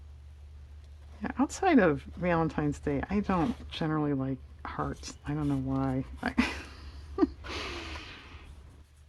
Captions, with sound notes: outside of Valentine's Day, I don't generally like hearts, I don't know why (laughs)